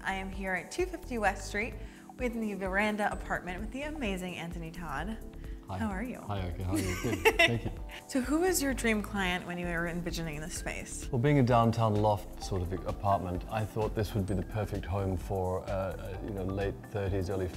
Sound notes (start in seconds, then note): 6.7 laughter